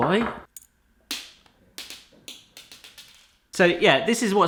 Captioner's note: dropping sound